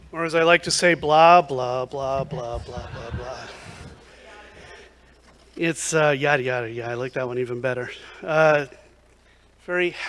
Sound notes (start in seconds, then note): 2.1 laughter